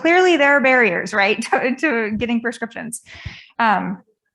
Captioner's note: chuckles